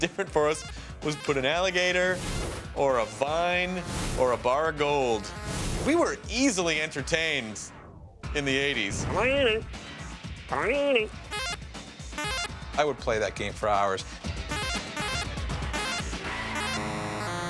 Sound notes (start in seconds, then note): 10.1 mimics arcade sounds; 12.1 arcade sounds